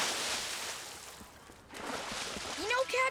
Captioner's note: loud splash